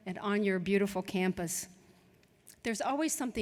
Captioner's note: none